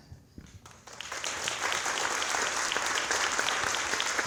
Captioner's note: audience applauds